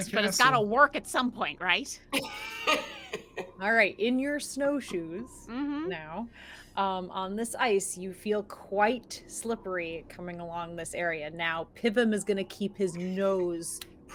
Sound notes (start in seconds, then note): 2.1 laughs